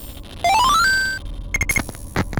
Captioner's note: Legend of Zelda beep